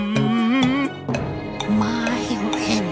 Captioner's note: whispering